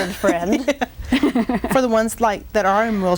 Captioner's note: laughing